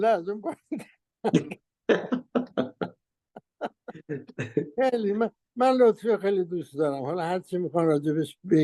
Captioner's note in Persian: خنده